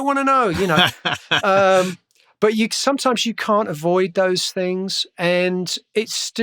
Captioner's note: laughter